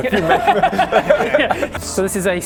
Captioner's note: game-ending laugh